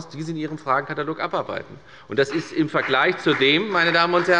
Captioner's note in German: Beifall bei der FDP und bei Abgeordneten der CDU